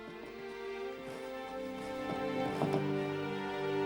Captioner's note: scratching